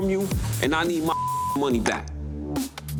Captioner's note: beep